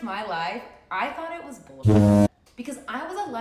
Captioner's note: ship horn blowing